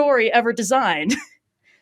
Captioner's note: laughs